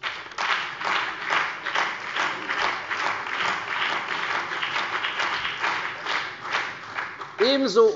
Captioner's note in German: Beifall bei der CDU und dem BÜNDNIS 90/DIE GRÜNEN